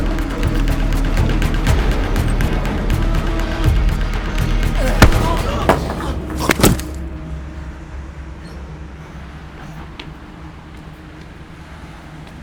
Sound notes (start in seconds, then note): 4.7 Martin wincing; 4.7 brick bashing